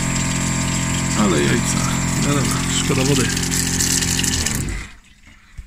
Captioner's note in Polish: odgłos pompy wody